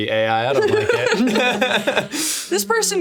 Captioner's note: all laughing